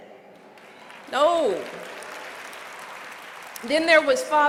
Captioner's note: applause